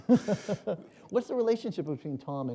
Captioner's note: chuckle